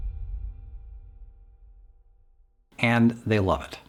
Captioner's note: silence